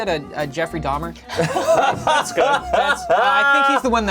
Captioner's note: laughing